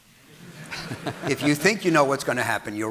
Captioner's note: audience laughing